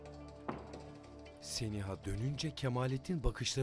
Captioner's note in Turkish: Kapı kapanma sesi